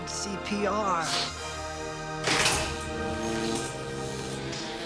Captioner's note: humming; surfing music plays